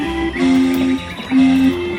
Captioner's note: laughing; birds chirping; bright music